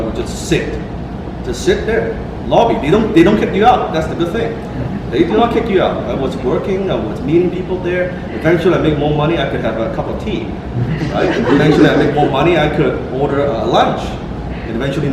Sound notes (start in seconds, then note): 10.8 laughter